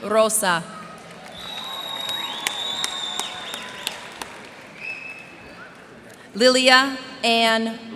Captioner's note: cheers and applause